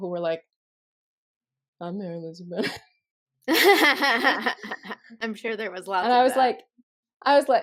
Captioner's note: bro voice; laughter